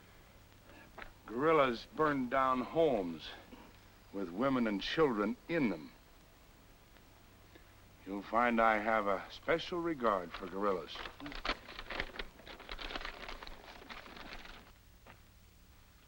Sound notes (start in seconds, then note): none